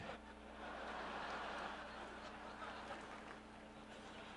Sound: laughter

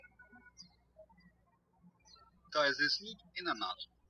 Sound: birds chirping

